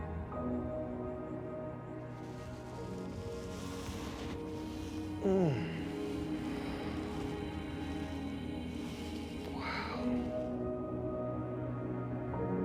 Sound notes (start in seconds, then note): 4.7 celestial music continues; 5.2 Baratunde groans